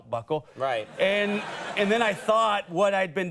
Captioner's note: audience laughs